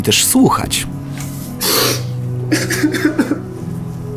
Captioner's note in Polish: płacz